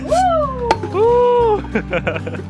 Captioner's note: howling